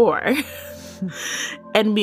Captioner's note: laughs